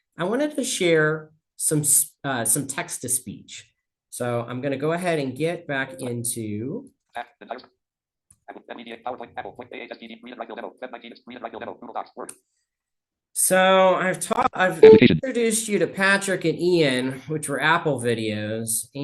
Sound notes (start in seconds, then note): 7.4 screen reader narrating extremely rapidly